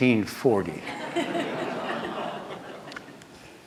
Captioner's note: laughter